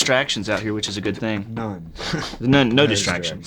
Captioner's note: laughs